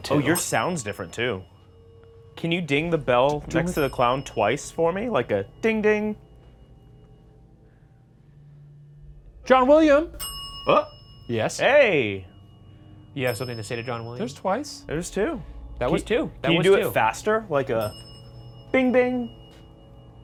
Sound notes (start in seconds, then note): 10.1 bell dings